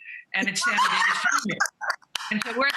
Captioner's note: laughing